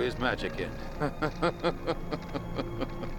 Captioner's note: laughing